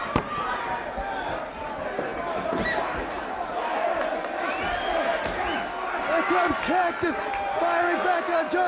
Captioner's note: crowd chatter